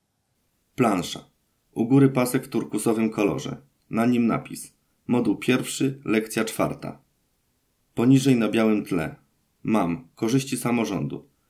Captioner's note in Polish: Głos męski z offu, audiodeskrypcja planszy